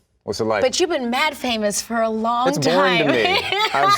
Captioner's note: laughs